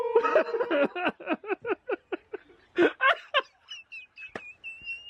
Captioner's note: laughs